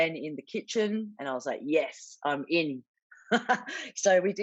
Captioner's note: laughs